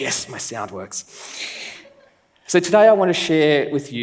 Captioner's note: laughs